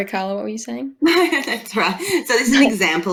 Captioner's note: laughs